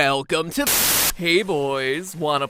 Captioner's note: bzzzt